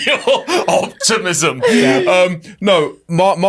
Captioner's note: laughs